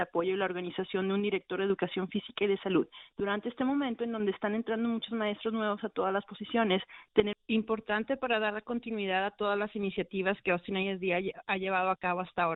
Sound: speaking spanish

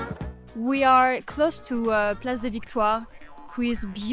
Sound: foreign language 00:04:28

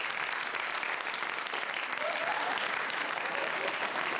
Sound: applause

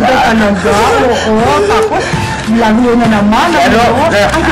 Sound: giggles

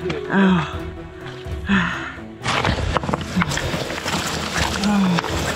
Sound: breathing heavily

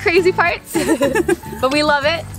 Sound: both laughing

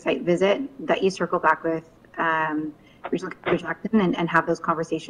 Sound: mutters

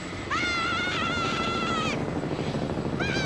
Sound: helicopter engine whirrs

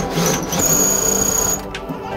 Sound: drill

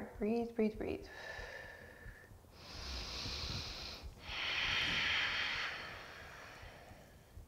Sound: deep breathing

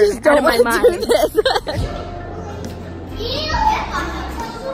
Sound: laughing

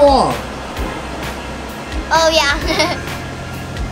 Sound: laughs

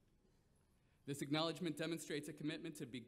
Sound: none

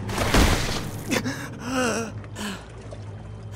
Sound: breathing hard

